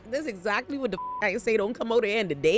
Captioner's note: beep